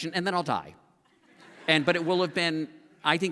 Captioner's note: laughter